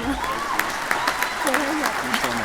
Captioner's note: applause